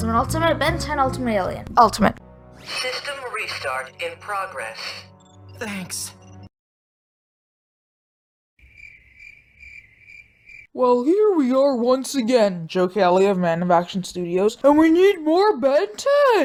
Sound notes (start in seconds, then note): 4.0 cricket Sound Effect